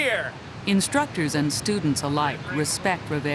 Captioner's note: voiceover